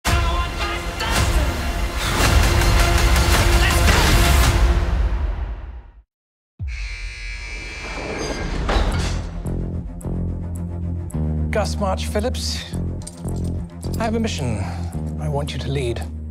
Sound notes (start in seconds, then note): 6.6 door alarm buzzing; 7.9 cell doors clanking; 8.6 tense music; 12.8 handcuffs rattling